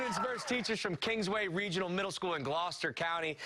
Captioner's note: cheers and applause